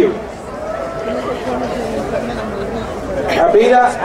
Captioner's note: crowd cheering